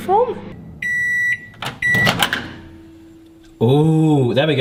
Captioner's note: microwave beeping